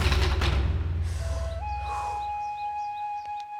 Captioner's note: deep breathing